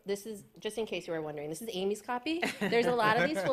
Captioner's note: laughter